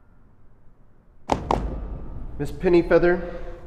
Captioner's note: Law & Order-esque transition sound